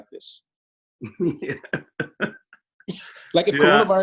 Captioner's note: laughs